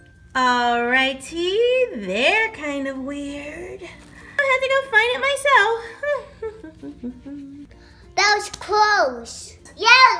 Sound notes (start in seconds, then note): 6.8 humming